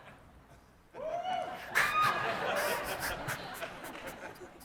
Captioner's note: cheering